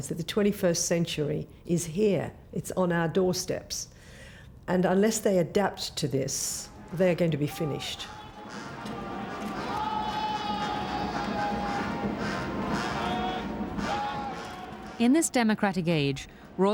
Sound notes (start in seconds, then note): 8.4 upbeat marching music; 9.5 shouting